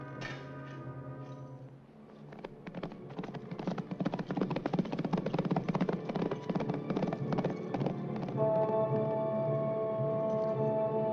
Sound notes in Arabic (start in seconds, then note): 1.8 موسيقى متوترة; 2.0 ضربات حوافر; 8.3 موسيقى متوترة